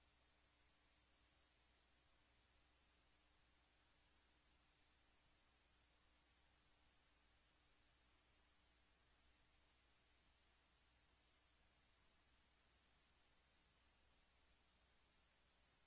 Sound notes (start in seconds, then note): none